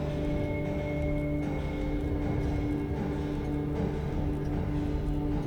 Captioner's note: rocking horse rocking